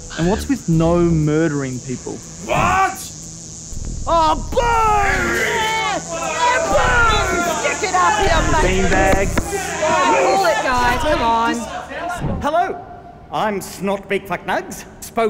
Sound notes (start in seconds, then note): 4.6 crowd heckles